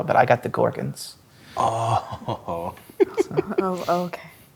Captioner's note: laughs